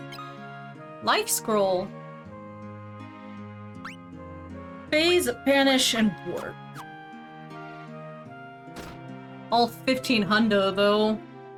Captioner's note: mimics music